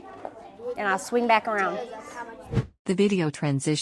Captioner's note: whoosh